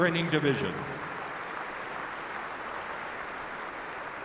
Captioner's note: applause